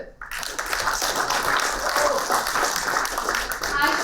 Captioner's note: applauding